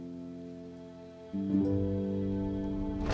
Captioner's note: car driving